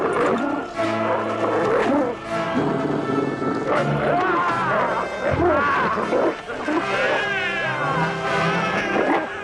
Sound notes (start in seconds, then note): 0.0 Beast growling; 4.4 Nepakin shouts; 6.8 baby crying